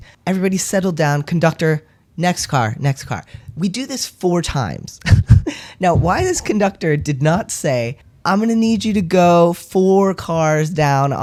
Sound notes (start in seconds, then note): 5.9 laugh